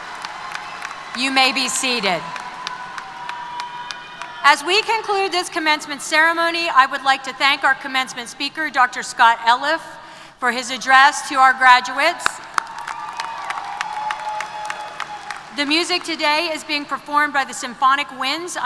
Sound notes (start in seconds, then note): 12.3 applause & Cheers